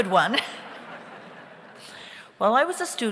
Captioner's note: audience laughs